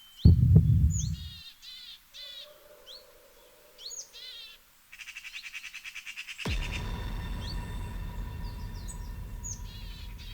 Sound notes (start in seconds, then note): 0.1 dramatic musical score; 2.9 birds chirp; 6.4 dramatic musical score